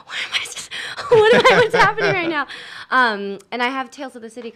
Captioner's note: laughs